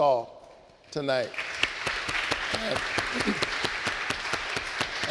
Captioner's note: audience applauding